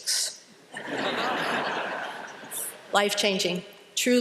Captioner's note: laughter